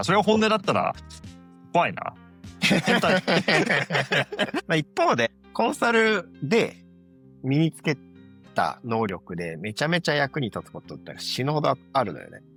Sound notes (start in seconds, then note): 2.6 laughs